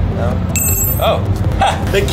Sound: key clinking

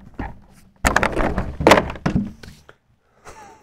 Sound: board clattering; instructor chuckling

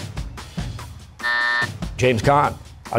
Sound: buzzer

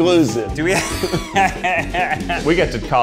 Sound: laughs

